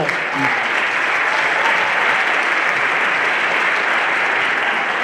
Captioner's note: everyone applauding